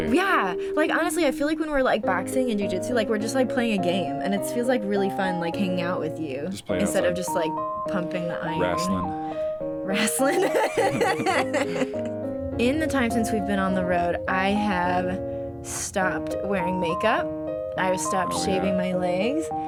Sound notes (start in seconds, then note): 10.0 laughs